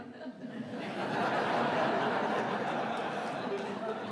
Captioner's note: audience laughing